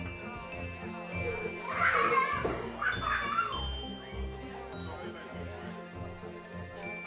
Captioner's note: guests chattering; children laughing